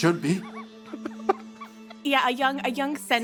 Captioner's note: laughter